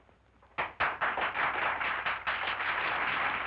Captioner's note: applause from women